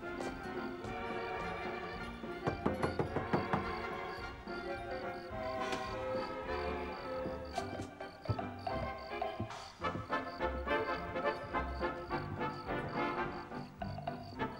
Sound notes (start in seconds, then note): 7.2 <i> knocking</i>